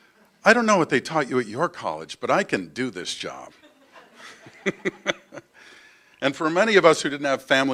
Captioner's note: laugher